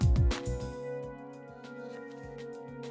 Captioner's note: blowing